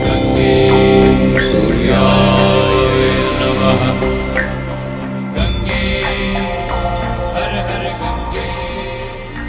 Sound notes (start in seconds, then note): 2.0 chanting